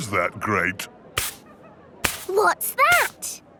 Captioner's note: brushing